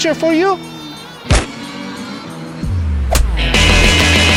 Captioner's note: title plate thudding; stamper thwacking